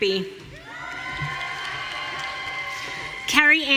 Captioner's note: audience cheering